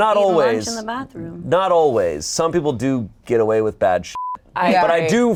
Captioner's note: beep